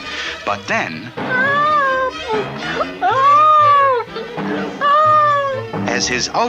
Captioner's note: bouncing!